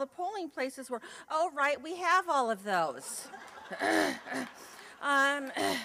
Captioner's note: laughter